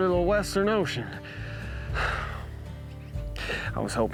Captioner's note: sighs